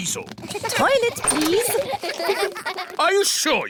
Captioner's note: kids giggling